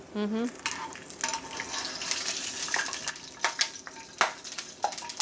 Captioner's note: sizzling and popping